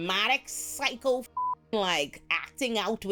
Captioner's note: beep